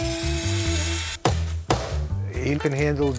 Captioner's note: saw blade whirring; hammer tapping